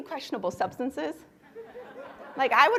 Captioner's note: laughter